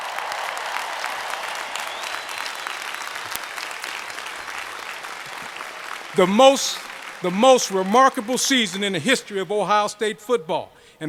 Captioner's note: cheers and applause